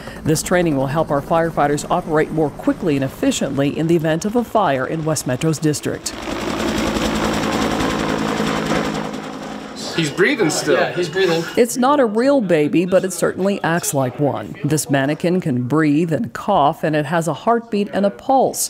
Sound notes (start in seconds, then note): 6.2 blades whirring